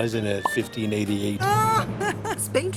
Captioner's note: laughter